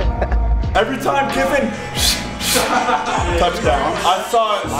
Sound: laughter; blows

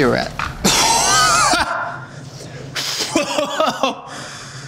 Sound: coughing

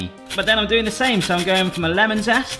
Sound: lemon rasps on grater

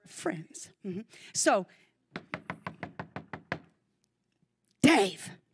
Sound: knocking on door

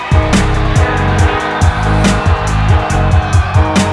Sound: yelling

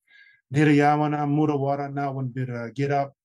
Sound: speaking traditional language

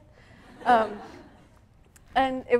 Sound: audience laughing

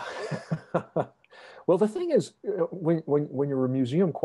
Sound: laughs

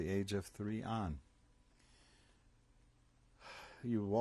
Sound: sighs

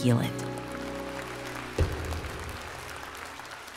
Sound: crowd applaud

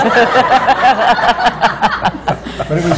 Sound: laughter

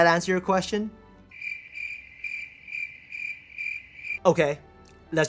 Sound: crickets chirp

